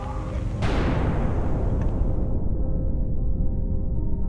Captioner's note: loud blast